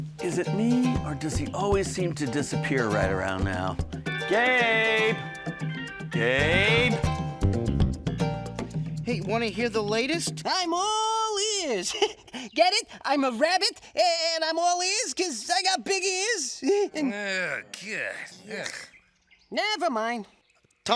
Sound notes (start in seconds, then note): 7.7 groovy music; 11.7 chuckles; 16.7 scoffs in disgust